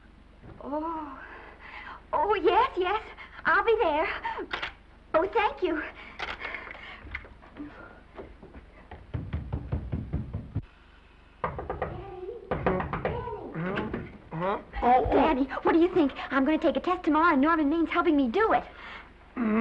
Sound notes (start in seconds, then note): 6.4 Esther gasping; 8.4 footsteps receding; 11.5 knocking